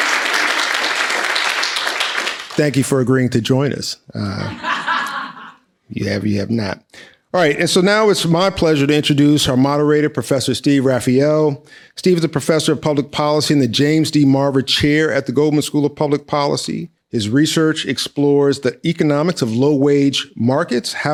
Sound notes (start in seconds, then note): 4.2 laughs